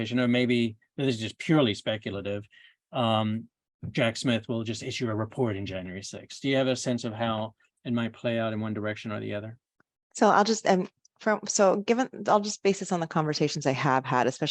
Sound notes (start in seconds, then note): none